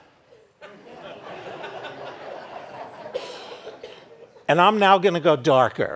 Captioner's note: audience laughing